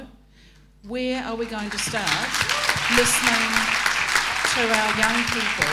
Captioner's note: applause